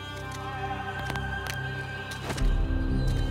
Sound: cracking

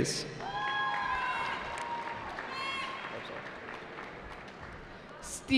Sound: cheering

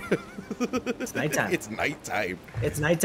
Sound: laugh

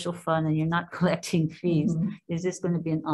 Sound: chuckles

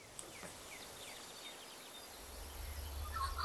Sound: birds chirping

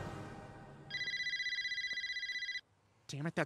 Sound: phone ringing

